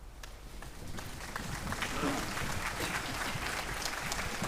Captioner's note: audience applauding